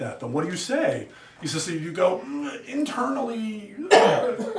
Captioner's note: groans; student coughs; students laugh